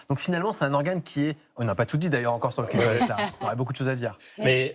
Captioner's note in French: rires